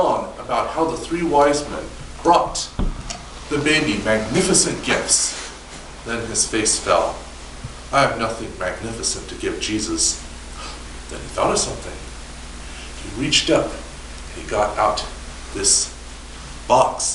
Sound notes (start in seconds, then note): 10.5 quick inhale